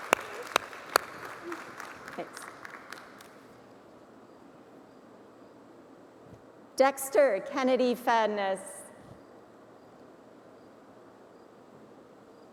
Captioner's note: applause